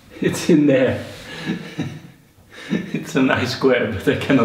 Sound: laughs

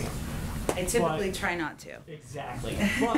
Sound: laughs

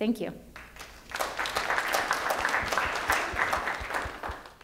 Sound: applause

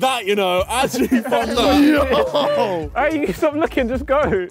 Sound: group clamours

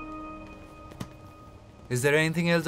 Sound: book shuts

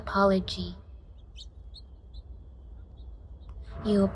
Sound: birds chirping softly

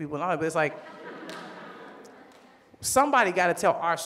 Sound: audience laughs

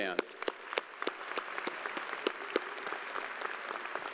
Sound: crowd applauding

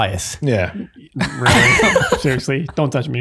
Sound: all laughing

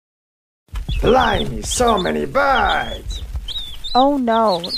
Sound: birds singing and wings flapping in background

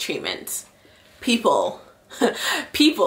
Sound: laughs

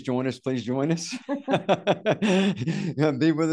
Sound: laughs

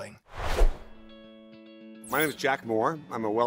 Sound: air whooshes

